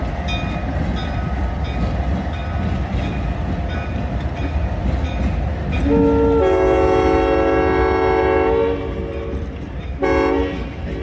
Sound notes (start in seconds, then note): 5.8 long horn